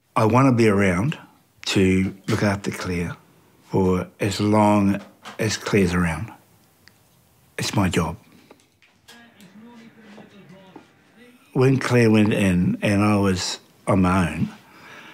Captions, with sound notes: I wanna be around to look after Clare for as long as Clare's around. It's my job. (TV PLAYS) When Clare went in and I was on my own,